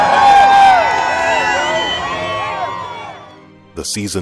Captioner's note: crowd cheering